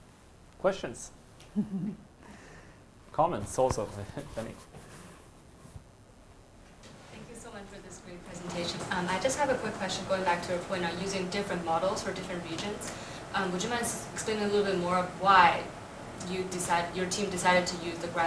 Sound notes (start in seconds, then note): 1.4 chuckles